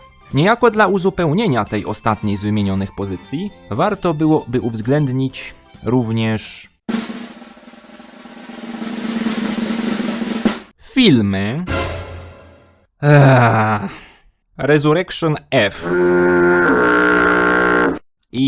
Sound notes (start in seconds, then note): 6.9 drum rolls; 13.0 even louder sigh